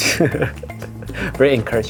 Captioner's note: laughing